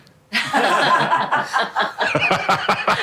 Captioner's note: laughter